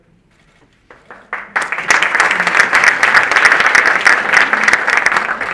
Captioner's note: audience applauding